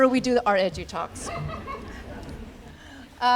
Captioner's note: laughter